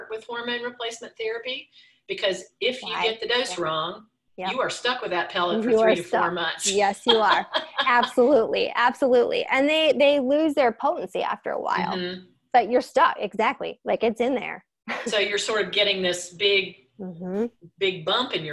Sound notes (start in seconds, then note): 7.0 laughing